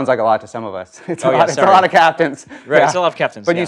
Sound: laugh

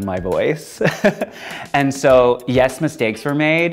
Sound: laughing

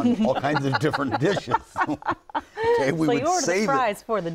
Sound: laughter

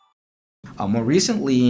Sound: chime

